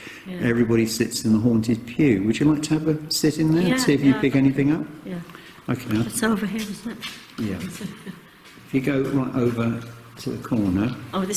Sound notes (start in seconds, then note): 7.6 laughing